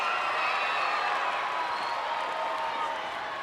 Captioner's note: crowd cheering